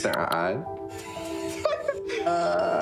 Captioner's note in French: rire